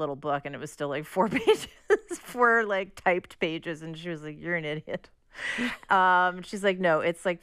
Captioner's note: laughter